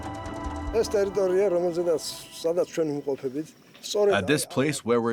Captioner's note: speaking Georgian